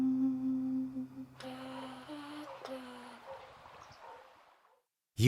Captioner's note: Fable the Raven hums